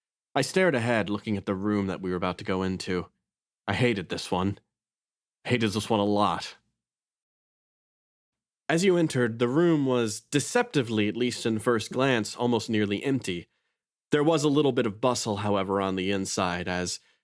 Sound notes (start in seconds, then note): none